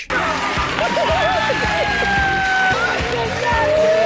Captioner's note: crying; audience laughing